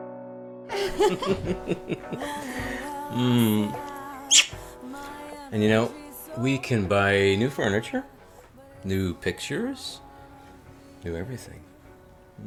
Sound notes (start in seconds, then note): 0.7 laughs; 4.2 kiss